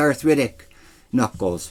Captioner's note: none